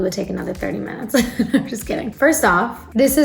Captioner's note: laughs